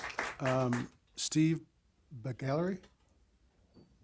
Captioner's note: applause